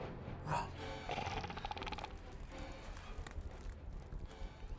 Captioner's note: snarling